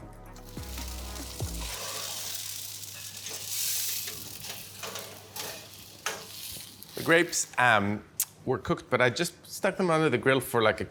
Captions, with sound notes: (sizzling) The grapes were cooked, but I just stuck them under the grill for like,